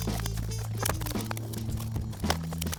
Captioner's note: plastic crinkling